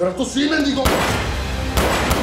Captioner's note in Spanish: Disparos